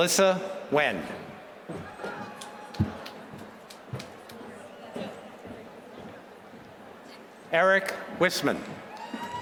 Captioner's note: applause; applause